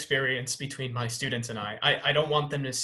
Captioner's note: none